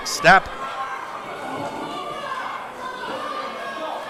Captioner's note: audience cheering